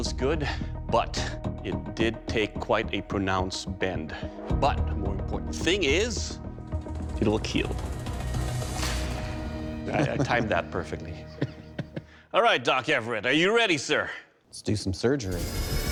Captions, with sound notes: But it did take quite a pronounced bend. But the more important thing is, it will kill. I timed that perfectly. [laughs] All right, Doc Everett, are you ready, sir? Let's do some surgery.